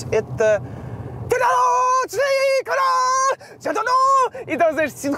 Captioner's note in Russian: кричит нечленораздельно